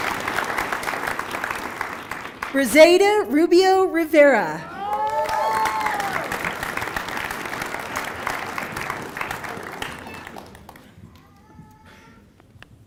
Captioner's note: applause